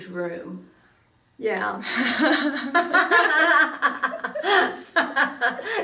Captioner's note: both women laughing